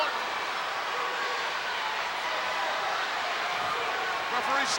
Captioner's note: crowd yelling